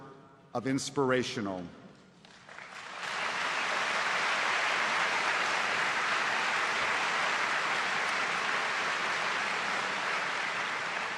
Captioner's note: applause